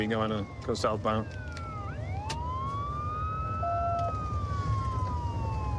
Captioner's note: sirens wailing